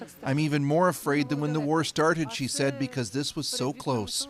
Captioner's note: speaking Foreign Language